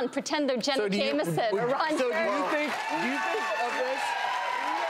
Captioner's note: audience cheering